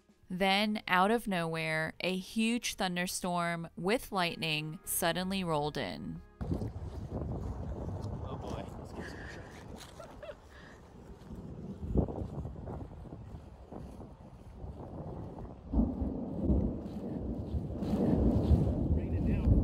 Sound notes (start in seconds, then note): 11.2 thunder